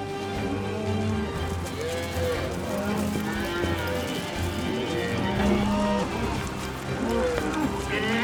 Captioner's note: cattle moo